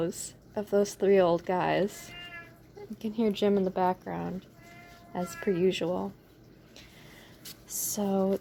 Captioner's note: meow